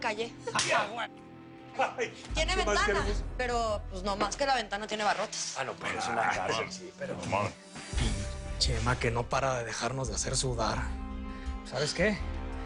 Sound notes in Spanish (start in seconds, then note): 6.7 Hablan al unísono